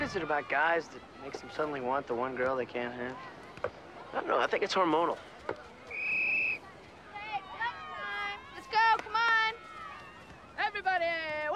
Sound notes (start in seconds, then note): 4.3 whistle blowing